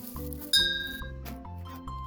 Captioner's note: bing